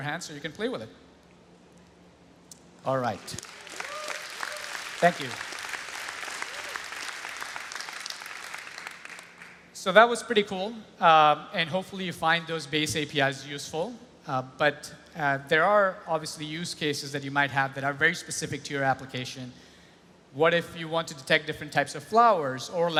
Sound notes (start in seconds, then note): 3.0 applause